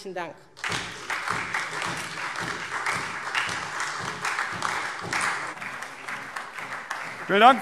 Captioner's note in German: Beifall SPD und vereinzelt DIE LINKE